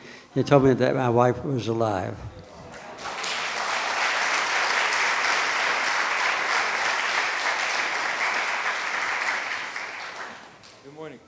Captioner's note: applause from the audience